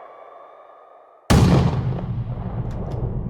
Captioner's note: bang